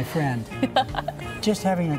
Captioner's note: chuckling